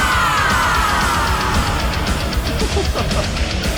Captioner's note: laughs